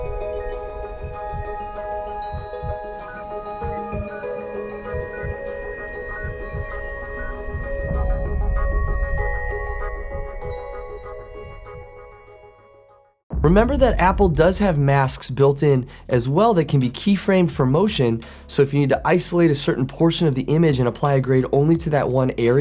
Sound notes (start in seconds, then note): 0.1 heartbeat; 4.4 beeping; 9.1 soft ambient music